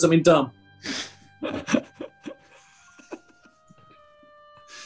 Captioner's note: sniggering